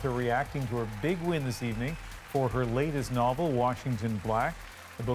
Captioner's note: applause